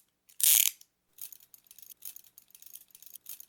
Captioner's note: handcuff sounds